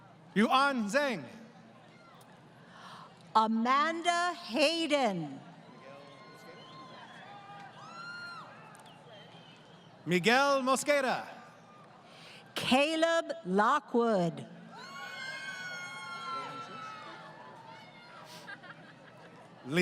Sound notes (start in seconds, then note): 5.6 crowd Cheering; 14.6 crowd Cheering